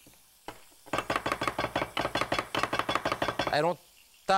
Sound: knife chopping

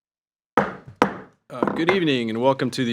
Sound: gavel clunking

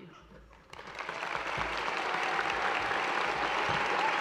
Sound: audience applauds

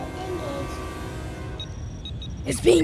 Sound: computer trills

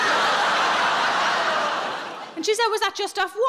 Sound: audience laughing

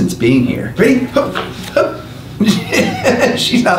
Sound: laughs

